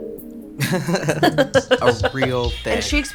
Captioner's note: chuckles